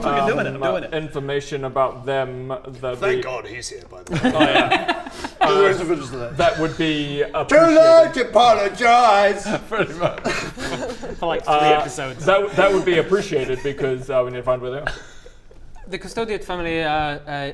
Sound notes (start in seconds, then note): 4.1 laughs in agreement